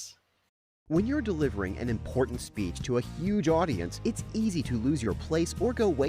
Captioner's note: voiceover